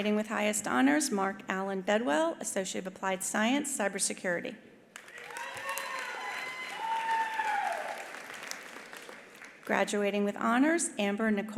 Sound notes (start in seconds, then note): 4.9 attendees applauding; 5.0 attendees cheering